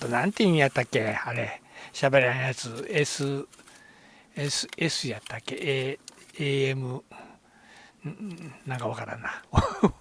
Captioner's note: laughs